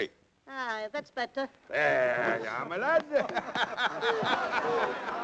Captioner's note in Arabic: الناس يتحادثون